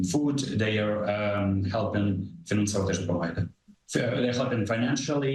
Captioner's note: speaking ukrainian